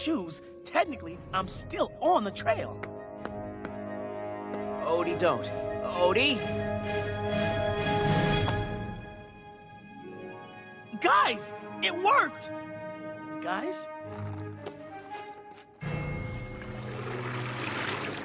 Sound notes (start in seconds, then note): none